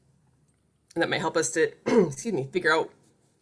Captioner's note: coughs